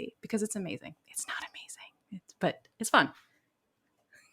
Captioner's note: whispers